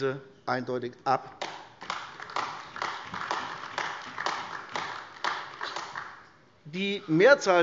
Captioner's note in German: Beifall AfD